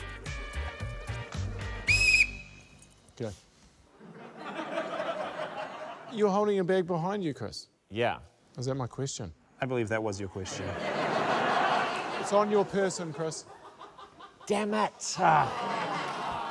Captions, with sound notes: (BLOWS WHISTLE) - OK. (LAUGHTER) You're holding your bag behind you, Chris? - Yeah. - Is that my question? - I believe thatwasyour question. (LAUGHTER) - It's on your person, Chris. - Dammit-uh. (APPLAUSE)